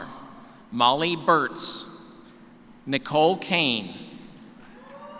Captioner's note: cheers